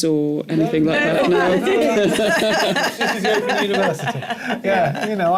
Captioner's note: laughter